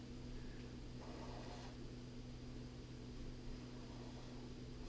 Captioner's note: pen scratching